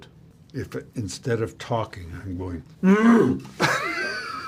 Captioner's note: grunts